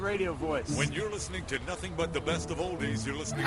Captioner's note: with epic voice